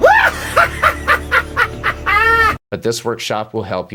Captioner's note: laugh